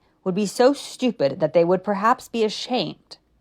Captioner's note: none